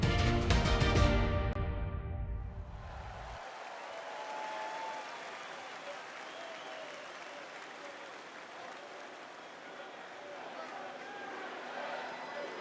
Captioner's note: applause